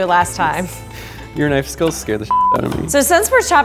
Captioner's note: beep